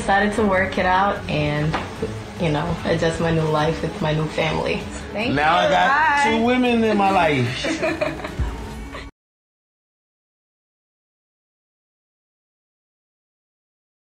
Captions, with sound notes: Kameron and I decided to work it out and, you know, adjust my new life with my new family. Thank you, bye. Now I've got two women in my life. (LAUGHS)